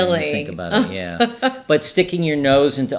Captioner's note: laughing